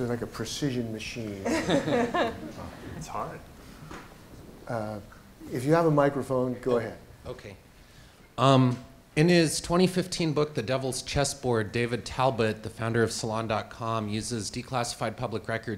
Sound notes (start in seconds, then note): 1.4 laughter